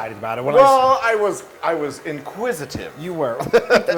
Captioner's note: laugh; laugh